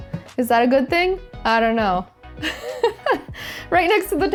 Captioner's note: laughs